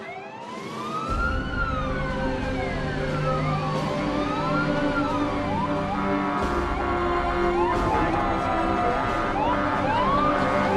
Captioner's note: sirens